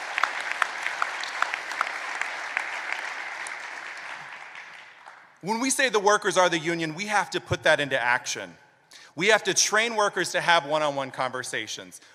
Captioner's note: applause